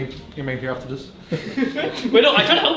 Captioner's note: laugh